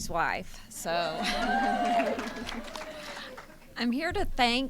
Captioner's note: laughter